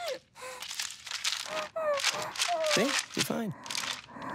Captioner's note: bag crunching